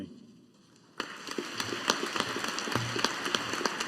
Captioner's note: audience applauding